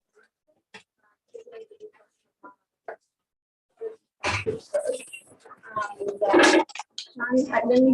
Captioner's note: background chatter